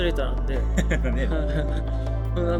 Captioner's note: laughs